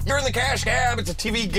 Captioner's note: alarm sounds, bells ring